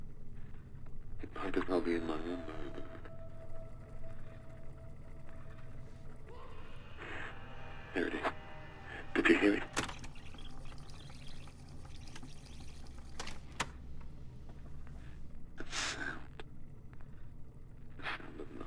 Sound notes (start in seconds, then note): 5.5 distant screaming; 7.0 man's voice; 9.2 clicks on rewind